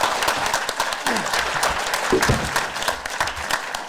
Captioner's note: audience applause